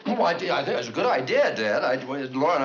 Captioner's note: stuttering